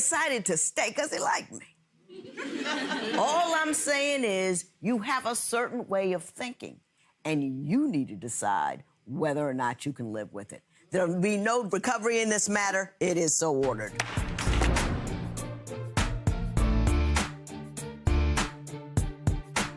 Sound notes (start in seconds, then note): 2.2 audience laughs; 13.7 upbeat music; 14.0 gavel cracks